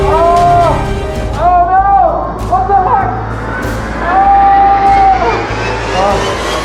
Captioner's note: shouts